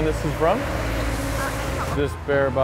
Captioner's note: non-english speech